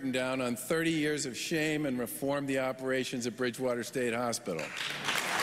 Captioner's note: applause